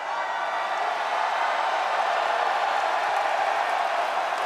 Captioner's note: audience cheers